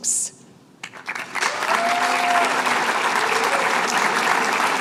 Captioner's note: applause